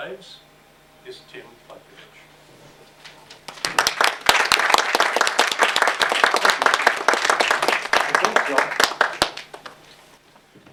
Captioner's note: applause